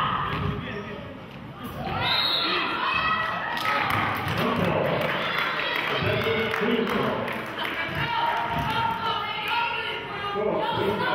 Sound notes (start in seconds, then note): 2.0 whistle blows; 3.5 clapping; 5.8 murmurs